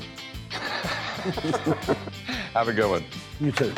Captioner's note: laughter